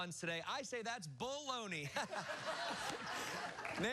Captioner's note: laughter